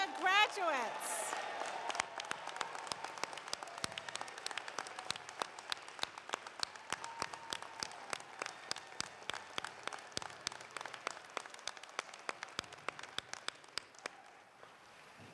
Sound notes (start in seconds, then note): 9.0 applause